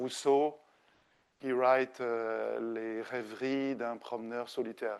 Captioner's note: speaking French